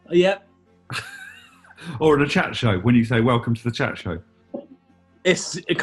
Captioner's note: chuckles; laughing